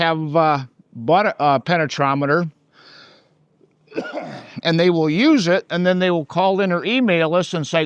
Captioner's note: coughs